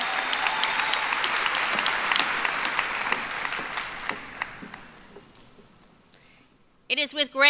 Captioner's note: applause